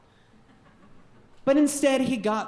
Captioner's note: audience chuckling